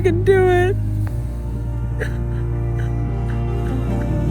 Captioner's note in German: weint